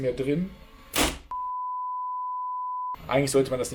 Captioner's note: bang!; peep